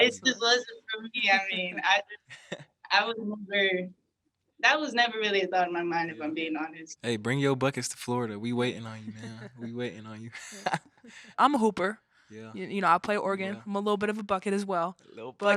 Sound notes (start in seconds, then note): 8.9 both chuckling